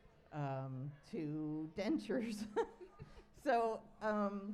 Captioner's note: laughs